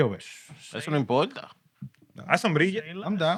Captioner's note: non-english Speech